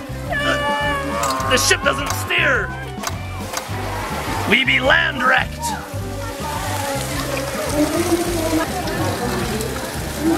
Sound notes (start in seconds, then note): 0.3 mom fake shouts; 6.3 water splashes